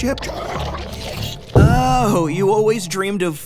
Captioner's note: 2Bells growling